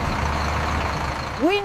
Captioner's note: car engine roaring